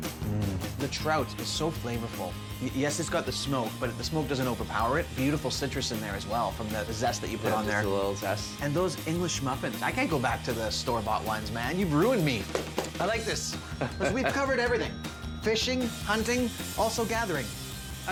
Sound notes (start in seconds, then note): 12.4 clapping